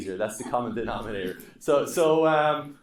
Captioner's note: students laughing